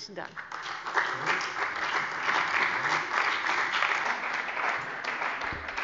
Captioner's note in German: Beifall bei der CDU und dem BÜNDNIS 90/DIE GRÜNEN